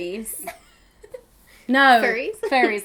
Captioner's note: laughing